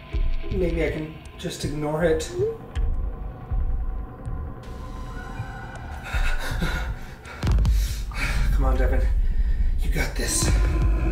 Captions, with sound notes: Maybe I can just ignore it. (New message alert) Come on, Devin. You got this.